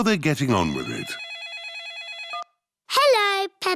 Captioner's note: phone rings